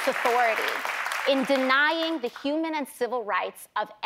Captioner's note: applause